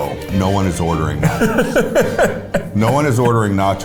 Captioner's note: laughs